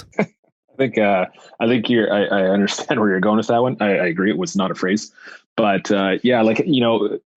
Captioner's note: laughs